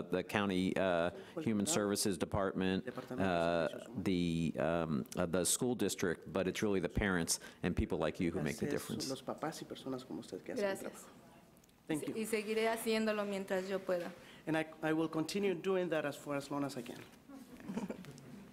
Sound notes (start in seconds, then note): 9.4 speaks in Spanish; 13.5 speaks in Spanish